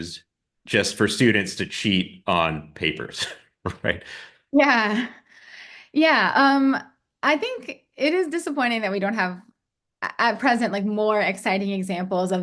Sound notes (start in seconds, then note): 3.7 polite laughs